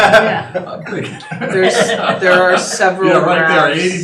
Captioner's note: laughing